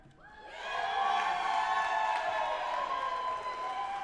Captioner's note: audience applauding